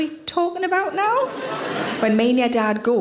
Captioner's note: audience laughing